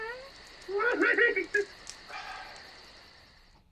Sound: farting continues; Yoda laughing; sighing

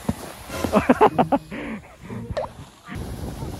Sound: burst of laughter

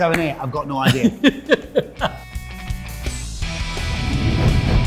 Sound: Dec laughing; whooshing

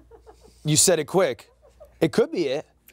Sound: crew giggling; more giggles

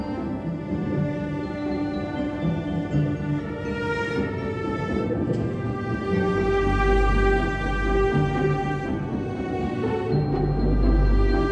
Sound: music continues, airplane passing overhead

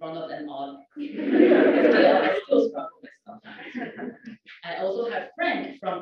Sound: laugh

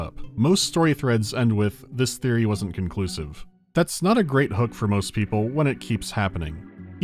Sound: none

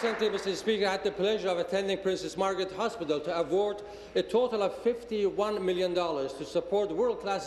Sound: applause

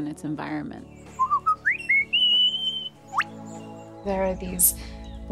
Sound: lyre bird singing

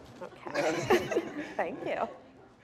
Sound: laughter

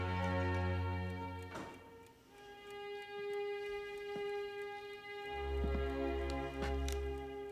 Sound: door opening; clock ticking

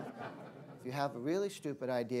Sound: laughter

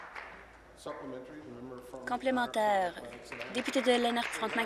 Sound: applause

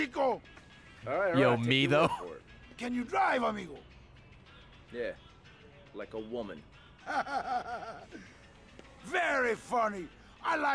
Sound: laughs

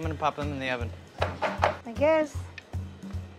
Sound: muffin tin clanking

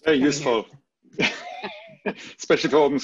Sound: laughs

